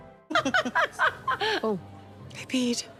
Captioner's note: laughing